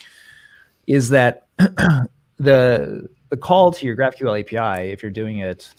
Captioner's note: clears throat